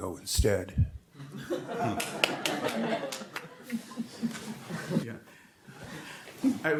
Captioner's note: audience laughing and clapping